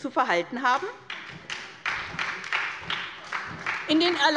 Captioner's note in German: Beifall bei der SPD und bei Abgeordneten der FDP